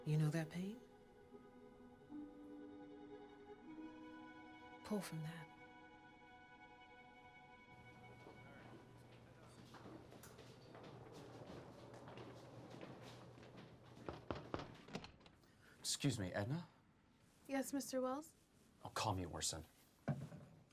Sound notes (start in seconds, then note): 14.0 knocks on door